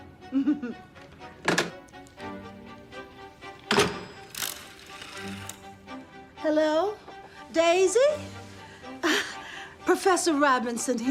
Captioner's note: chuckles